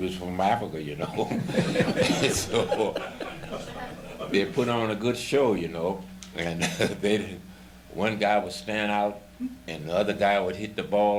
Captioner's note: laughter